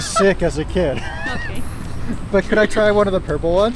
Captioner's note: laughs